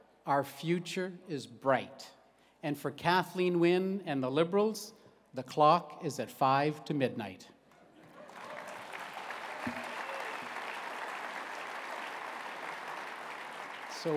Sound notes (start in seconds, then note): 8.0 applause